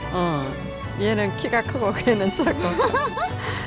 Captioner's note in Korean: 웃음